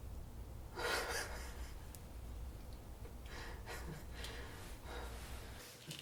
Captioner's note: laughs